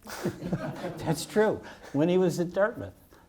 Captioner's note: audience laughs